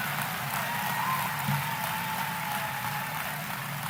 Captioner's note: applause